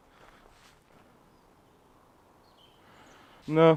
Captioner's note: birds chirping